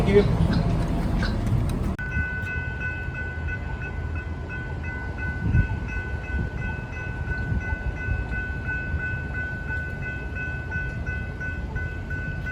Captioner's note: crossing gates ringing